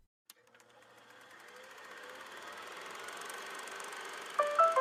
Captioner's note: film reel sound effect